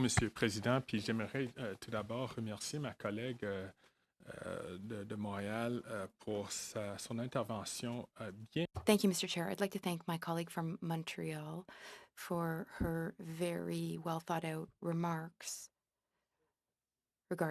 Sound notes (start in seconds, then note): 3.6 speaking French